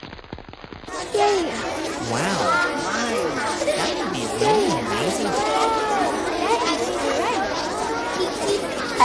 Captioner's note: children Talking and Laughing